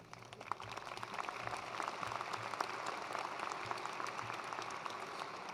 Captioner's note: attendees applauding